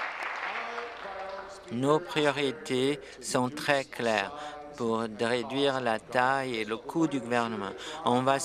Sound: applause

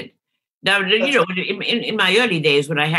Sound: murmurs

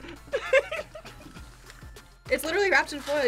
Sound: laughs

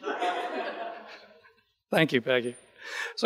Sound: audience laughing

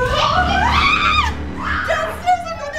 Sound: screaming

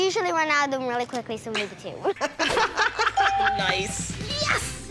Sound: parents laugh

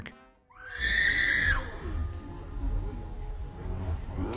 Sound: rider screams

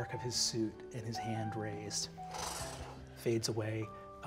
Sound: imitates light whooshing

